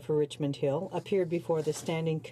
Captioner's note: speaking French